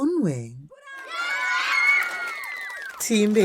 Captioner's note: applause and cheering